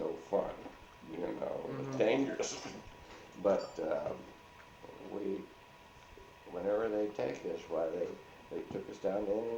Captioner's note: chuckles